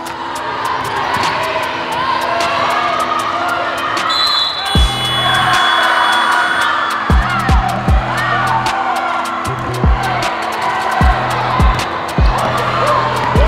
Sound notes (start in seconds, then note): 0.6 cheering; 4.0 whistle